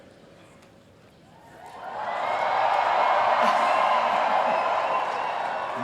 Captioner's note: cheering